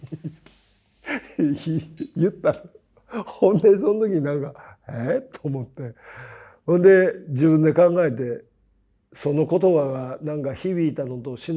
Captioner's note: laugh